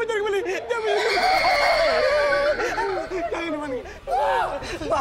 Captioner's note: maniacal laugh